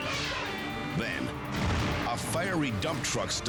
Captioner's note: explodes